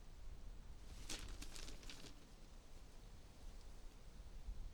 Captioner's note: newspaper crinkling